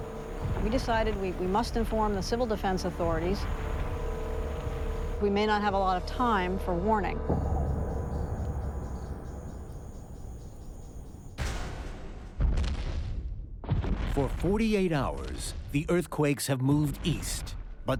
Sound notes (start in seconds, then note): 12.3 crashing